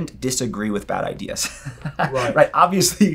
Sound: laughs

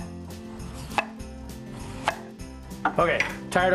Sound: chopping

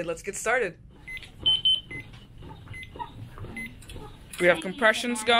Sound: medical machine beeps

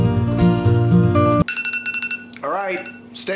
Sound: alarm ringing

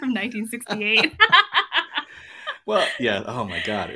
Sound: laugh

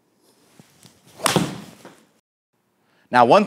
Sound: golf shot hissing

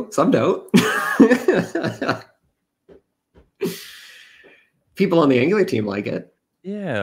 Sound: laughs

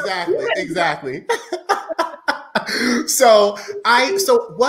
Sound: laughing

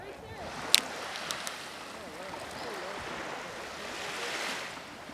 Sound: waves crashing

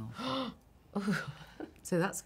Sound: scandalized gasp

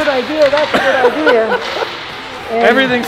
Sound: laughing

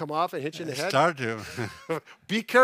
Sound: laughs

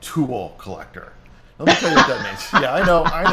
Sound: laughs

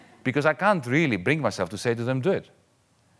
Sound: none

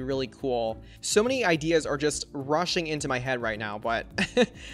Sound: chuckles

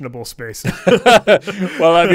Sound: both laughing

